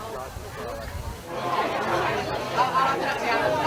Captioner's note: crowd chattering